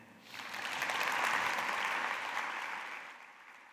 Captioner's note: applause